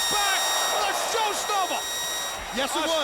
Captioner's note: audience exclaiming